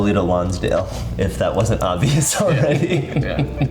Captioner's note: laughs